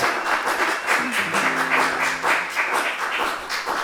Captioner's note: applause